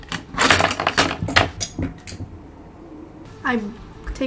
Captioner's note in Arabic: فرشاتي تضرب الطاولة